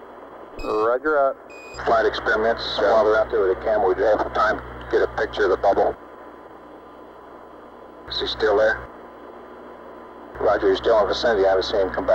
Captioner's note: mission Control Audio